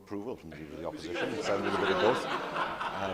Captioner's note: laughter